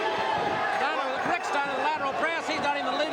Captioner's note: crowd chatter